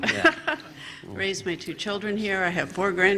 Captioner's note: laughter